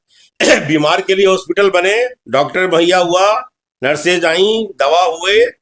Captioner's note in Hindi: गला साफ़ करने की आवाज़